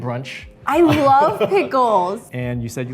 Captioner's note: laughs